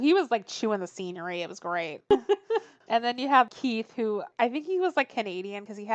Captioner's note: laughs